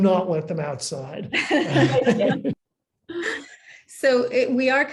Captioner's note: panelist laughing